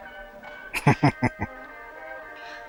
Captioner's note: chuckling